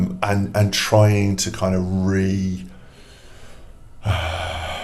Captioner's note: sighs